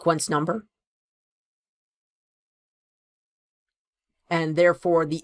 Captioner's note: no audio